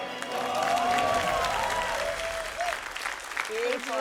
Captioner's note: cheering, applause